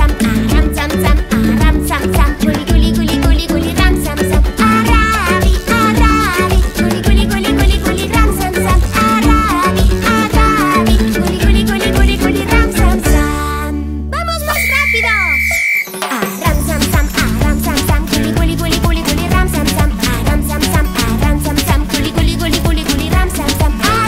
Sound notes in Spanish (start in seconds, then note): 14.4 Sonido de silbato